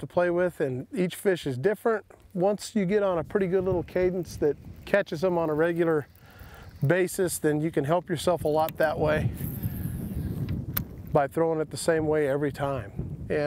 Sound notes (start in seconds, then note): none